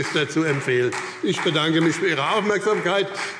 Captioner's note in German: Beifall